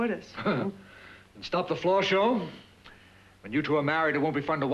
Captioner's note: scoffs